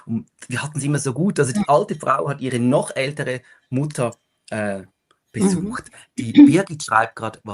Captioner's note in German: gelächter